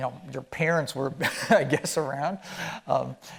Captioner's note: chuckling